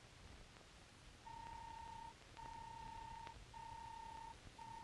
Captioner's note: robot beeping